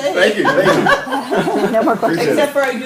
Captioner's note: laughter